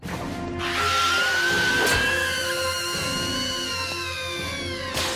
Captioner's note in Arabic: صراخ